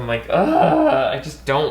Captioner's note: groans loudly